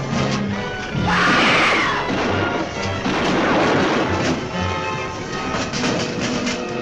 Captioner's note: Julie screaming; gun firing